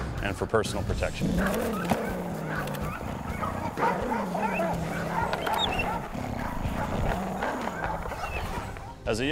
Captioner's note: dog growls